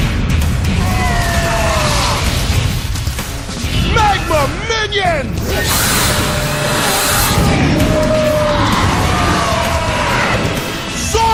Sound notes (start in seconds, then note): 0.8 explosion; 8.6 grunts